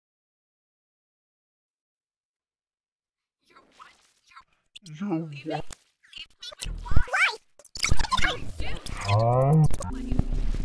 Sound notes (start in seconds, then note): 0.0 conversation